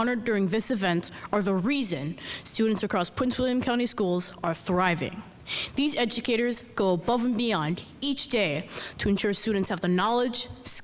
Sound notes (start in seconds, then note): none